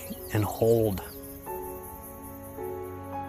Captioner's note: crickets chirping